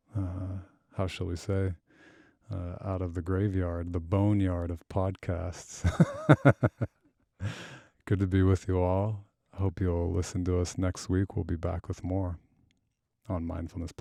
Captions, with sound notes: how shall we say, out of the graveyard, the boneyard of podcasts. (laughs) Good to be with you all. I hope you all listen to us next week. We'll be back with more on Mindfulness+.